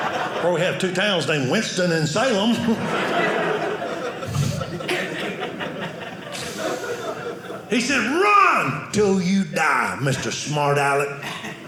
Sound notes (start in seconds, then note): 0.0 audience laughing; 2.8 audience laughing